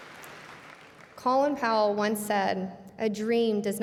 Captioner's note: cheers and applause